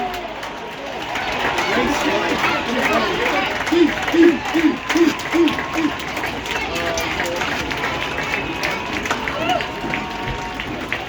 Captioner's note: general applause